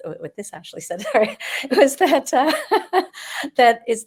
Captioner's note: chuckles